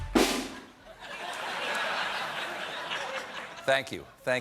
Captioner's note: laughter